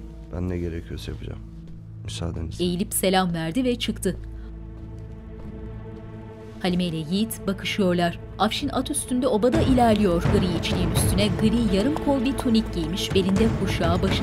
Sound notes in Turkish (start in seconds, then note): 3.7 Müzik - Gerilim; 4.6 Ayak sesleri; 7.4 Müzik - Gerilim